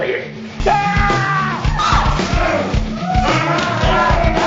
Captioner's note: yelling